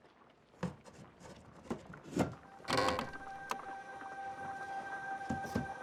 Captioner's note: creaking sound; suspense music